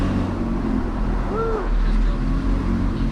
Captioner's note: car engine